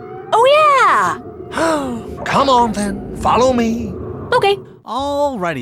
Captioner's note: sighs